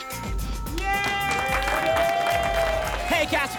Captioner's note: applause and cheering